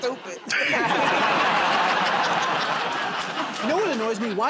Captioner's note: laughter and applause